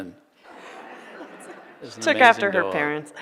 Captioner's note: audience laughing